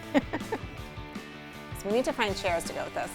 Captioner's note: laughs